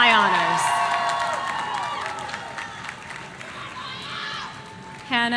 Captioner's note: audience cheering